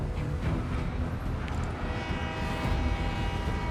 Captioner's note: match clatters, train horn